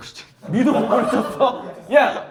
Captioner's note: surprised